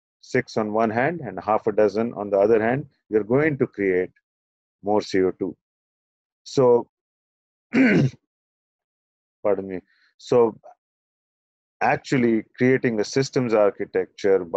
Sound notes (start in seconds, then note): 7.7 clears throat